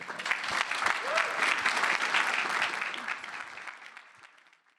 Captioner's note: applause